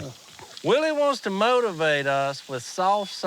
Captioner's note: none